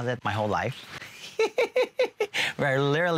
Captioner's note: laughing